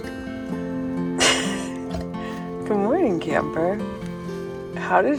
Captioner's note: laughs